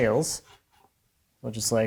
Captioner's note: gauge on wood scraping